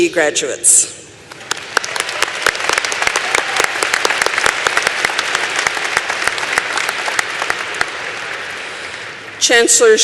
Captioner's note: applause